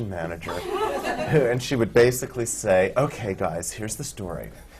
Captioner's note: laughter